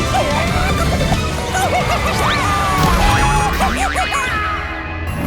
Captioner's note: clucking